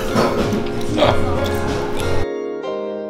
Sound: laughs

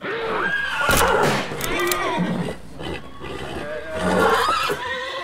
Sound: horses whinnying

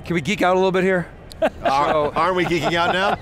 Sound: laughter

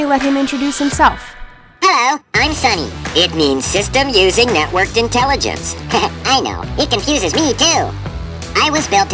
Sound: laughs

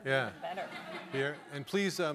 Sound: audience laughing

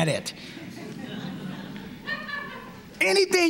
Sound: laughter

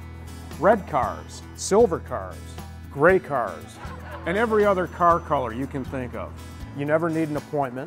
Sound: laughter

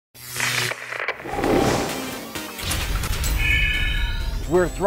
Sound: sound Effects

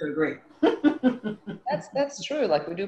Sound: laughs

